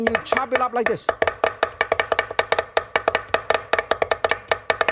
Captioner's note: chopping sounds